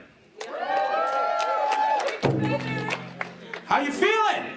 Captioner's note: clapping and cheering